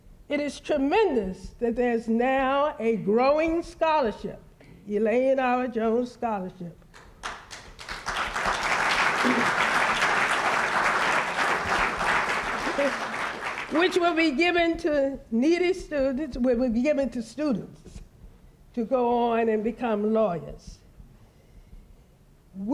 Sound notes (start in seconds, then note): 7.0 applause